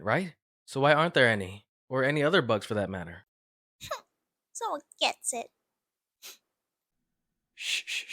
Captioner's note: sniff